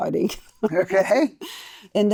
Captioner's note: laughing